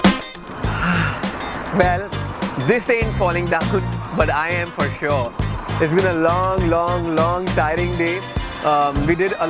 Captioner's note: sigh